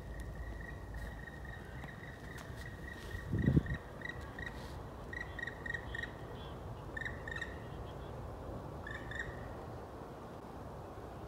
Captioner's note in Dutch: onbekend vogelgeluid